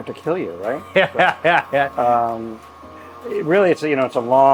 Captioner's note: laughs